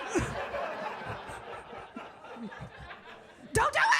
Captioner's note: audience laughing